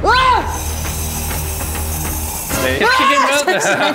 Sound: hiss

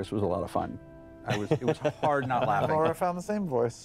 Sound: laughter

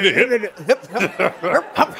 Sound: chuckling

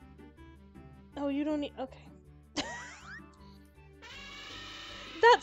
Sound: laughs

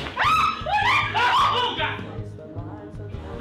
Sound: screaming

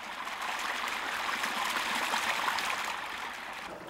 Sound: water rushing

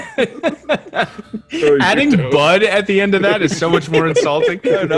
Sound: laugh

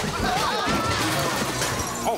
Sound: people grunting

